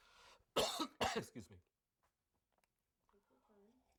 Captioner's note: coughs